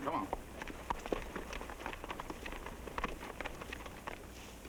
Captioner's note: horses clopping